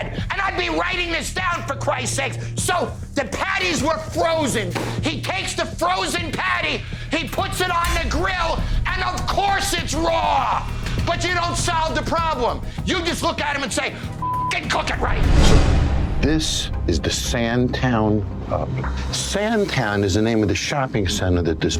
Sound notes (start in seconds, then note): 14.2 beep